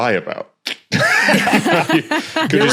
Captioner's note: group laughing